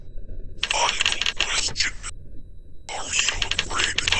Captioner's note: voice From Comptuer